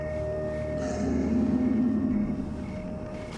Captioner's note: roar